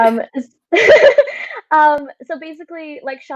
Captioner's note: laughs